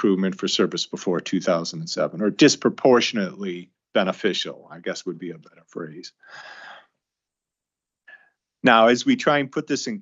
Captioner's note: sighs